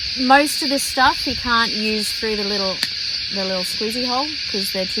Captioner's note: lid clicks open